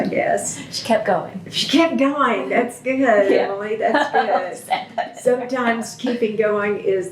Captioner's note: laughter